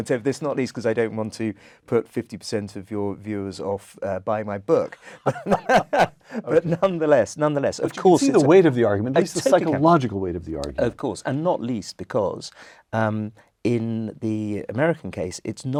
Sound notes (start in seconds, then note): 5.1 laugh